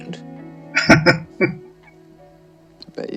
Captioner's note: chuckling